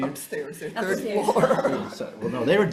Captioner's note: chuckling